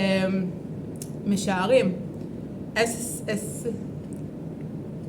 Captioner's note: in Hebrew